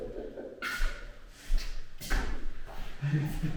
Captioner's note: laughing